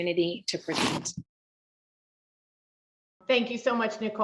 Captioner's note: no audio